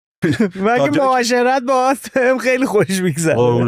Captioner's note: laughs